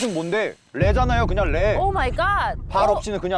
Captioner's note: sound effect: savage insult